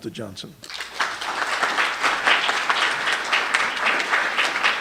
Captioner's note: applause